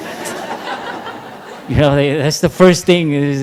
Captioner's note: laughter